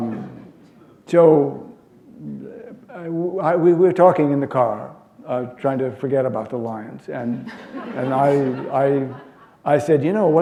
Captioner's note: laughter